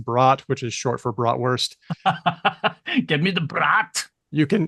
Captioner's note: laughs